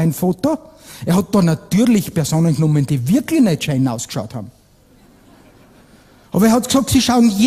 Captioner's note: laughter